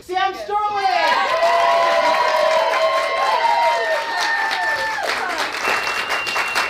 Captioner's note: cheering